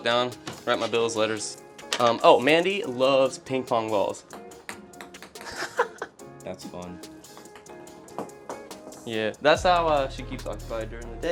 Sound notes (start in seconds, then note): 4.1 ball tapping; 5.4 laughs